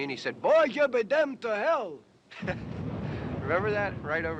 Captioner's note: chuckles